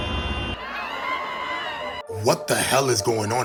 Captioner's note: screaming